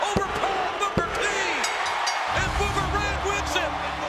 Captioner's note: bell dinging